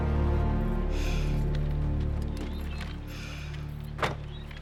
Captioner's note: heavy breathing